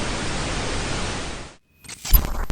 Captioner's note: camera shutters